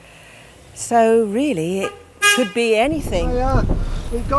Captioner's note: car toots